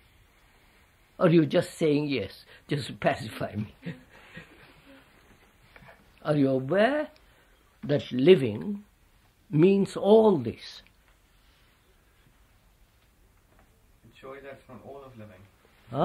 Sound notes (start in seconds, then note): 3.6 laughs